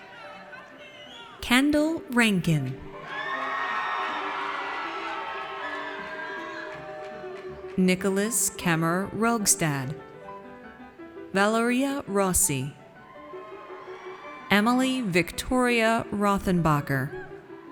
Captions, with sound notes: Kendall Rankin. (audience cheers) Nicholas Kemmer Rogstad. Valeria Rossi. Emily Victoria Rothenbacher.